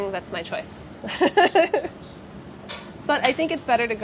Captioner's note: laughs